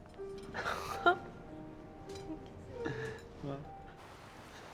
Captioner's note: both chuckling